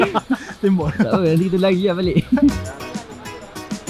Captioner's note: laugh